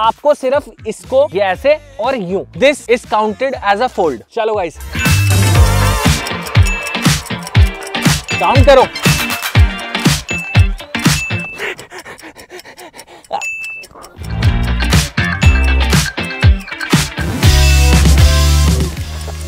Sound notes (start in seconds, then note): 11.0 exhale